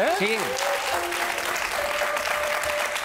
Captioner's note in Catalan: aplaudiments